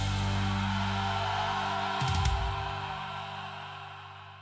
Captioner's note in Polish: krzyk